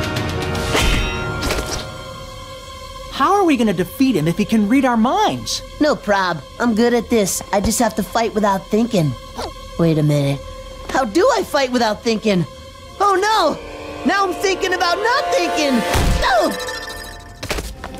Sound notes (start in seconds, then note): none